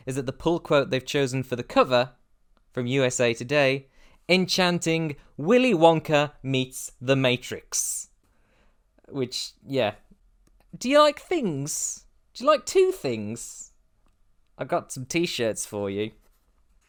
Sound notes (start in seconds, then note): none